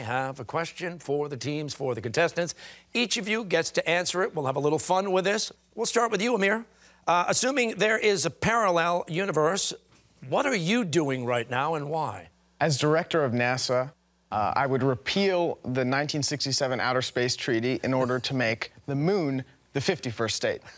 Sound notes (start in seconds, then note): none